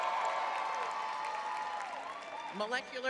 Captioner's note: cheering; clapping